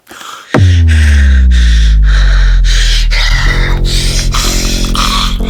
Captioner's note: Larry gasping; Henrietta gasps; Henrietta choking; tense music